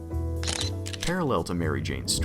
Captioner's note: camera shutter